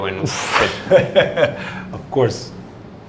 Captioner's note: laughing